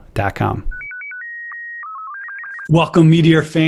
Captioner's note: modem beeps